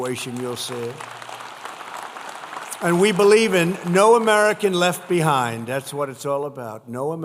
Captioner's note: applause